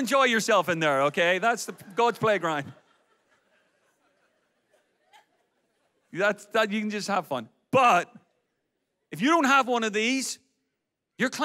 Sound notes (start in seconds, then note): 3.0 audience laughs